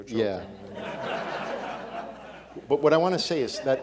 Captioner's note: audience laughing